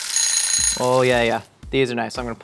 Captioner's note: timer rings